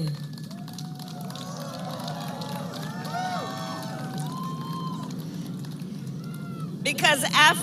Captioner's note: applause